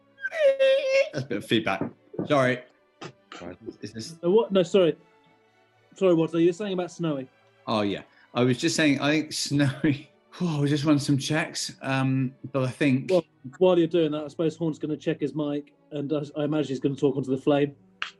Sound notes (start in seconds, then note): 10.2 sighs